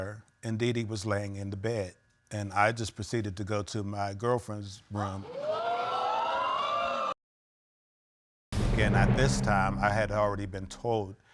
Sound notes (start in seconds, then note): 5.3 audience gasping